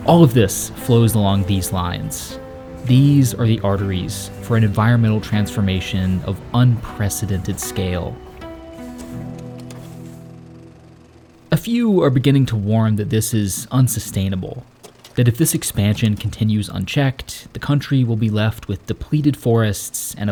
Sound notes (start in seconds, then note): 9.8 projector clacking